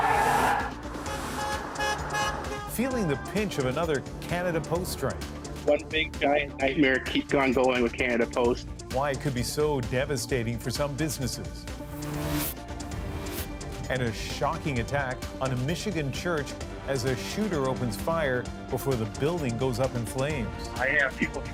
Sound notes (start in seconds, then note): 0.4 cheers and Applause; 3.4 horns